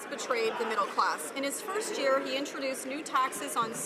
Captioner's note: some laughter